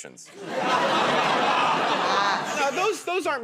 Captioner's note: laughter